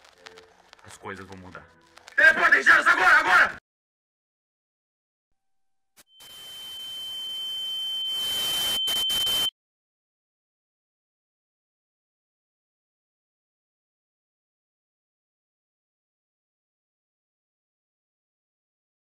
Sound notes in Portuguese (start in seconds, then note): 6.0 estatica e zumbido; 9.5 silêncio